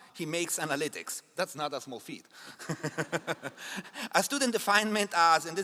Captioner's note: laughs